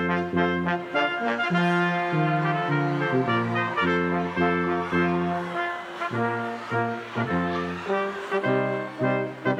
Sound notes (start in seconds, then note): 1.6 students cheering